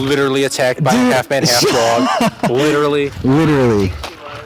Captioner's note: laughing; sarcastic